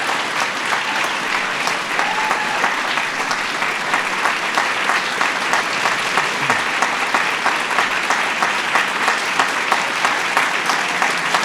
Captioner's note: applause